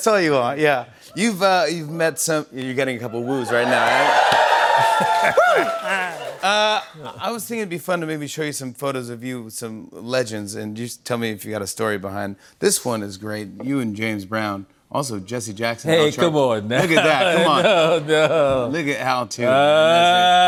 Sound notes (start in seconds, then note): 3.2 cheers and applause